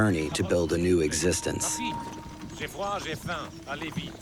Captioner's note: speaking French